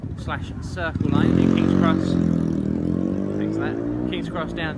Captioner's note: motorbike noise